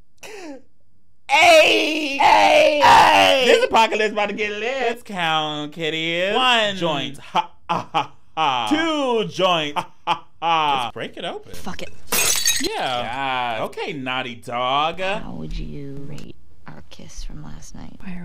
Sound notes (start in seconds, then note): 1.4 laughing; 7.6 laughing; 12.0 glass smashing